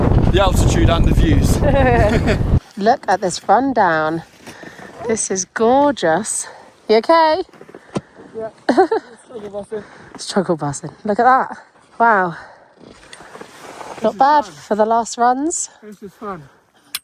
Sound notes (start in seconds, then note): 1.4 both laugh